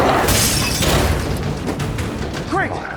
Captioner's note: Smelly roars; glass shatters